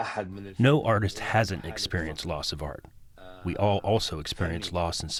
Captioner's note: through translator